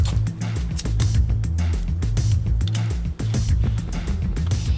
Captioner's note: lighter flicking open